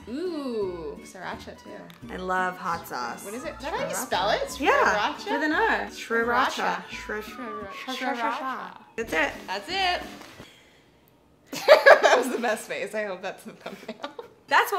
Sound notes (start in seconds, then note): 11.6 laughing